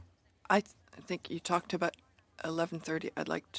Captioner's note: speaking in French